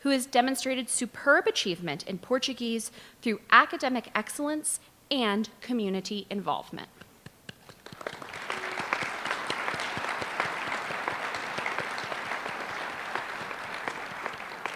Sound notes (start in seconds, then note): 7.6 applause